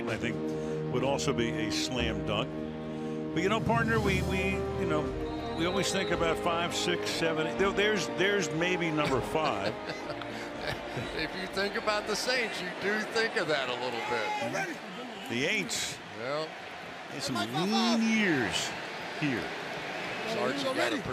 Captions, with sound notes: Sean Payton I think would also be a slam dunk. But you know, partner, we-- you know, we always think about five, six, seven. There's maybe number five. [laughs] If you think about the Saints, you do think of that a little bit. The Ain'ts. Yeah. Been some lean years here.